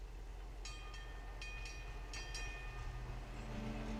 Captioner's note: bell ringing; soft music